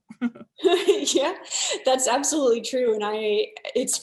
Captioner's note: laughs